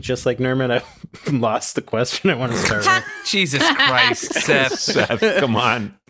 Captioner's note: laughing